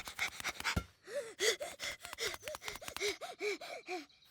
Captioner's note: panting heavily